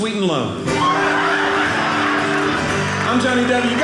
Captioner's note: audience laughing